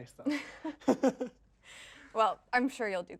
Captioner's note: both laugh